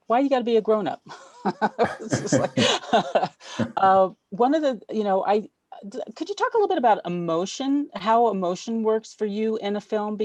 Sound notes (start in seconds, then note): 1.1 laughs